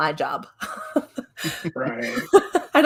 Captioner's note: laughs